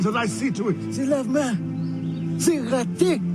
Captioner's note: non-english speech